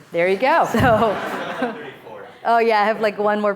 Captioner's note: speaking off mic